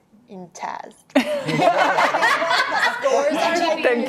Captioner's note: laughing